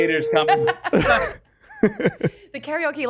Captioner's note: laughs